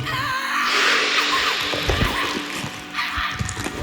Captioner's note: snake growls; Diana screaming